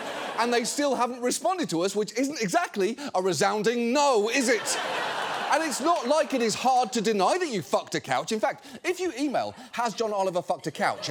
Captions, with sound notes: And they still haven't responded to us, which isn't exactly a resounding no, is it? (STUDIO AUDIENCE LAUGHING) And it's not like it is hard to deny that you fucked a couch. In fact, if you email hasjohnoliverfuckedacouch